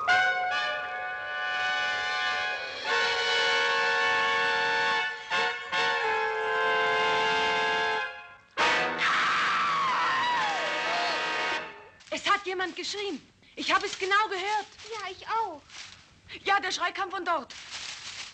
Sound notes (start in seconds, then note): 0.5 dramatic music; 9.0 Linda screaming